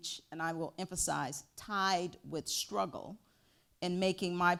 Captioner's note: none